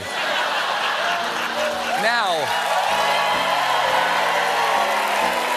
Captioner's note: laughter; piano riff; cheers and applause